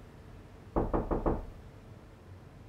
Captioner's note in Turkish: Kapı vuruldu